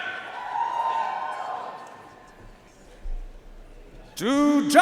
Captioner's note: audience cheering and applauding